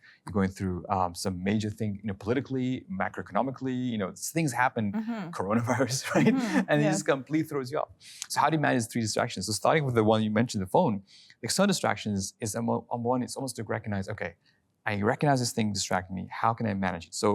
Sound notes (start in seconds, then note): 5.4 laughing